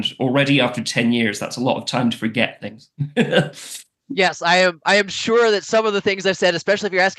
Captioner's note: laughs